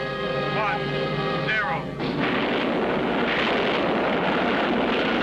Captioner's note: rocket firing